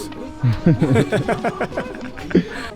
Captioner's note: laughs